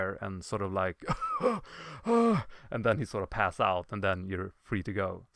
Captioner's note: gasping for air